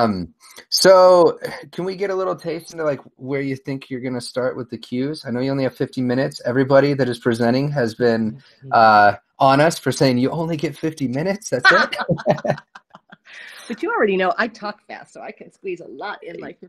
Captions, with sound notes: So can we get a little taste like where you think you're gonna start with the cues, I know you only have 50 minutes everybody that is presenting has been on us for saying you only get 50 minutes. (Laughs) But you already know I talk fast so I can squeeze a lot in.